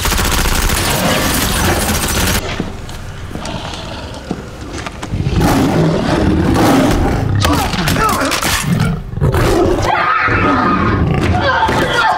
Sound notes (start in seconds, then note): 0.0 gun fire; 1.3 low growling; 5.0 roars; 9.7 screams